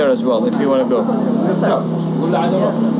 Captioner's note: recording stops